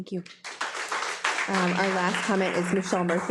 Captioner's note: participants applauding